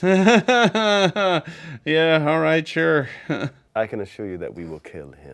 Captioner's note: laughs